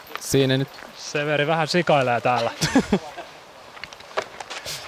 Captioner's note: laughter